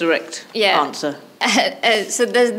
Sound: chuckles

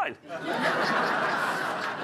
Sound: chuckles

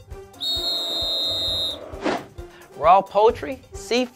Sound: whistle blowing; crowd booing

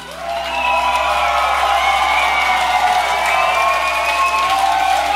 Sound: cheering

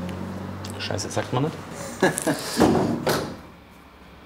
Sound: laughter, rumble

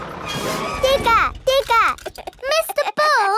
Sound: chuckles

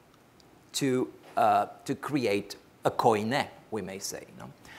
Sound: speaks foreign language

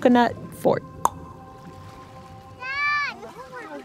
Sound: A clonk sound—the coconuts bumping against each other; the music gives way to sound from a video: a child calling out to their dad

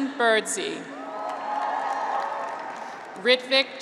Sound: graduates cheer

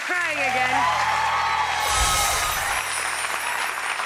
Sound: applause

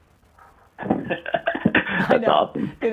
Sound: laughing

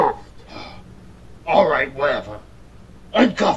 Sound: sighs in frustration

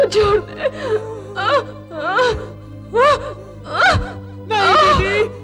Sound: groans

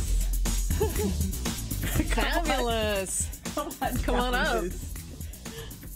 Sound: laughing

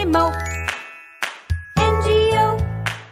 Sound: clap; clap

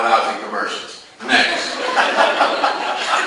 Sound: class laughs

